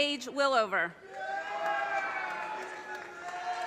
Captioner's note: audience cheers and applause